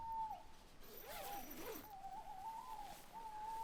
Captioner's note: owl hooting